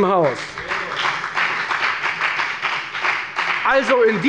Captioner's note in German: Beifall bei der FDP